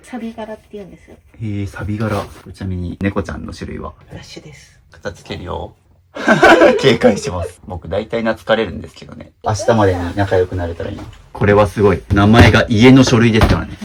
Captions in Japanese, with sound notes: 錆ビって言うんです。 ええ、サ。ちなみに猫ちゃんの種類は フラッシュです。 片付けるよ。警戒します。僕大体懐かれるんですけどね。明日までに仲良くなれたらいいます。これはすごい名前が家の書類ですからね。もんなに弱く症。 [笑い]